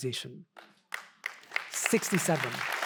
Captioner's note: audience applauding